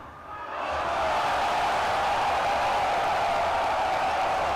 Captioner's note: crowd cheering